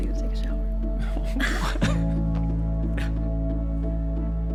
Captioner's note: both chuckle; gentle wistful music